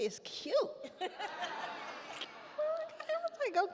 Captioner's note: all laugh